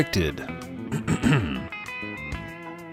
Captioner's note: clears throat